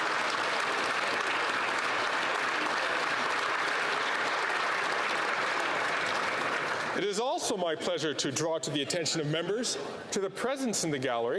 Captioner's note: applause